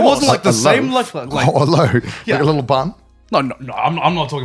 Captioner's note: chuckles